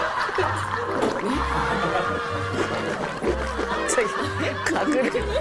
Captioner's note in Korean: 청아하게 울려퍼지는 가글 소리